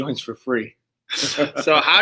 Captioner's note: laughs